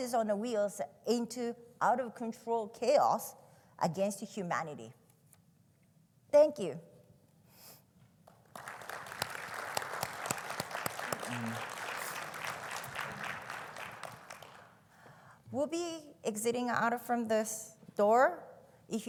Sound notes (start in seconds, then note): 8.3 audience applauding